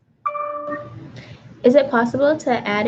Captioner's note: computer dings